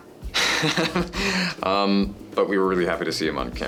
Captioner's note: laughs